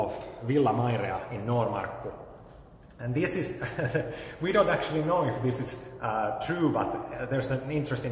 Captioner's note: laughs